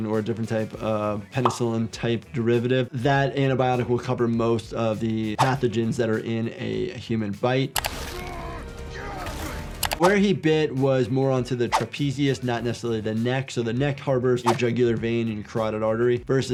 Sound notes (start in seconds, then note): 7.7 screen clicking; 7.9 characters grunting; 9.8 screen clicking